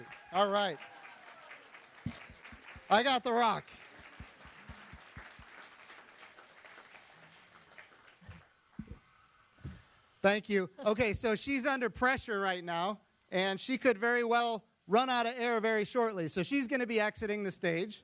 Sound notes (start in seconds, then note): 5.0 applause